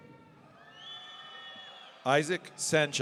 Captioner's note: audience cheering